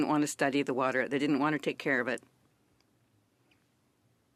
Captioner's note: speaking French